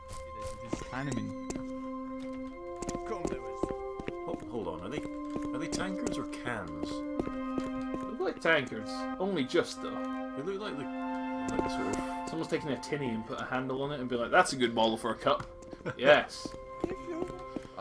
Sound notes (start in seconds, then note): 15.6 NinjaFish laughs